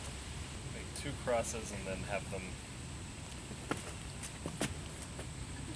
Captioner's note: laughter